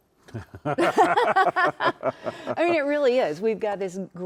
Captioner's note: both laughing